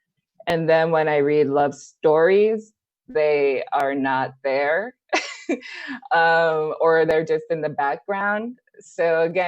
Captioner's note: laughs